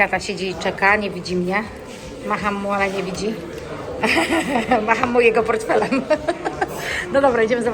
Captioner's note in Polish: śmiech